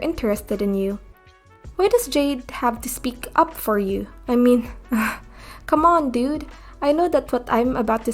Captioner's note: ugh